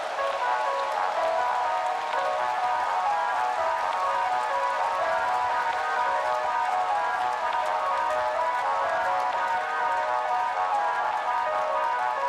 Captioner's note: crowd cheering